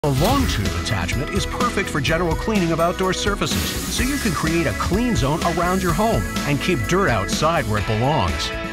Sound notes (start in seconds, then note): 0.1 voiceover